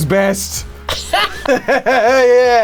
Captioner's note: laughing; laughs